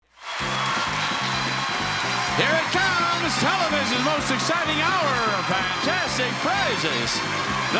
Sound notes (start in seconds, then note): 0.1 audience applauding; 0.3 lively music